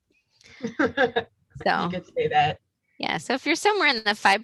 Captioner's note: laughs